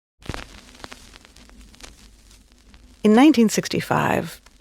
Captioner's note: audio tape crackling